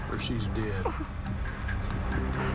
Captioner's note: whimpering and panting